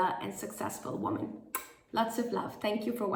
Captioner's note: blows kiss